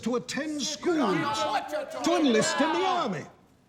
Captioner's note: crowd yelling